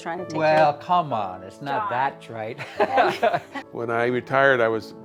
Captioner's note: laughs